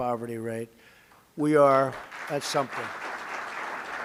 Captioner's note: applause